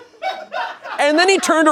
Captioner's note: crew laughing